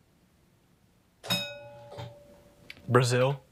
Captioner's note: bell rings